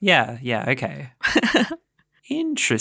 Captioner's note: laughing